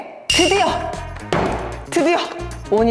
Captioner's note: bam